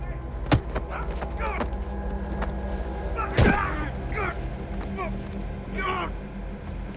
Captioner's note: tense music; man grunting